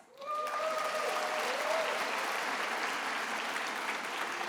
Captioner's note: attendees applauding